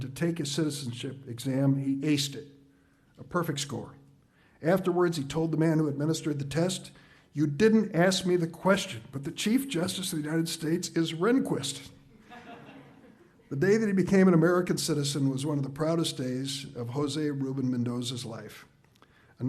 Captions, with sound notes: to take his citizenship exam, he aced it. A perfect score. Afterwards, he told the man who administered the test, "you didn't ask me the question, but the Chief Justice of the United States is Rehnquist!" (audience laughs) The day that he became an American citizen was one of the proudest days of Jose Rubin Mendoza's life.